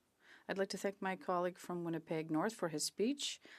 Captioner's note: speaking French